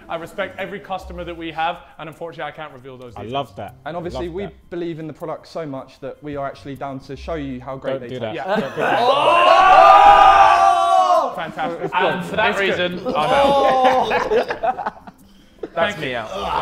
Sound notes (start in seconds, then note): 8.4 Sidemen exclaiming; 13.9 Sidemen laughing